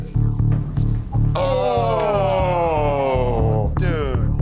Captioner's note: groaning